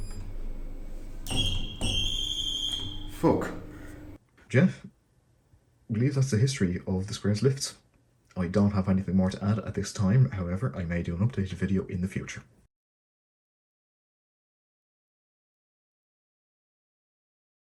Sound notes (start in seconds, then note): 1.3 alarm button pressed